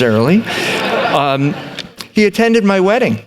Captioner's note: laughter